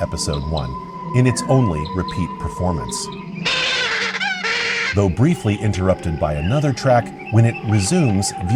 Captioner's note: bird screeching